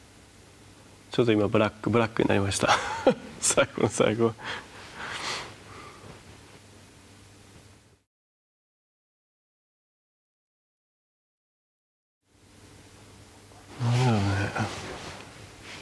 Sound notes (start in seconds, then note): 6.1 laughs